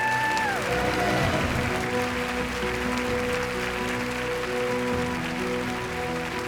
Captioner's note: audience applauding; wondrous music